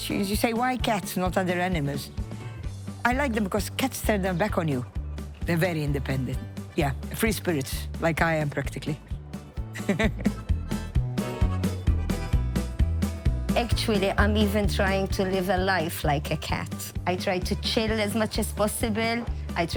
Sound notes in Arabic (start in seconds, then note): 9.7 تضحك; 10.7 موسيقى مبهجة